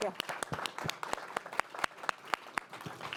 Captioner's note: audience applauds